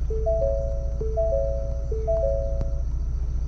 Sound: alarm sound

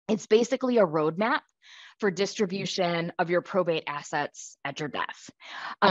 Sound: none

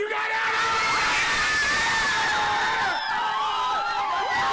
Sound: screaming

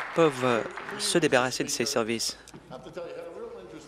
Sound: applause

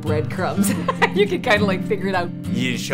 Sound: laughs

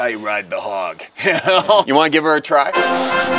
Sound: laughing

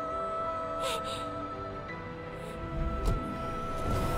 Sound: sob

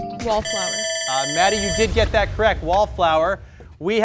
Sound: buzzer dings; timer rings

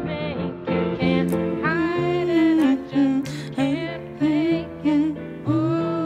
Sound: hums along

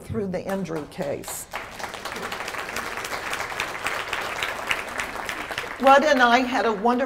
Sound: applause

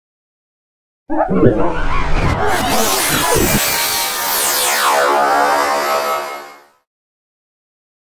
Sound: sound of morphing

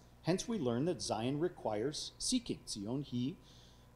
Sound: speaking foreign language

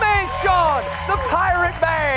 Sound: cheers

